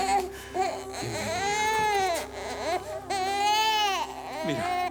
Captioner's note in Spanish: Llanto del bebé